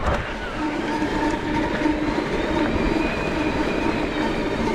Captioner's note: bike humming